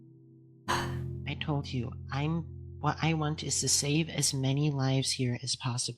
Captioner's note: ROSE huffs